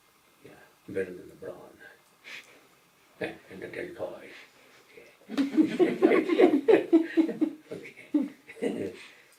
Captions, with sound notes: Better than the brawn—and the deltoid. Yeah. (Laughter)